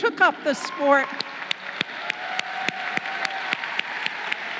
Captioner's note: crowd cheering